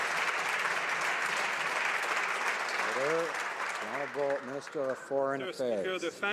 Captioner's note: some Applause